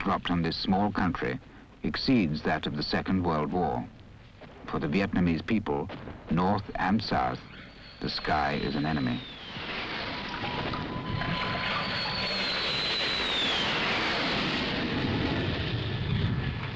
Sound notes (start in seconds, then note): 9.8 planes screeching